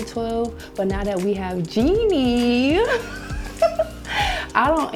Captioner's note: laughs